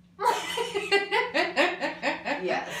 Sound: laughs

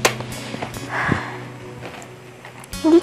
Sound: sighs

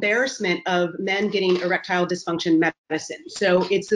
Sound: voice muffled

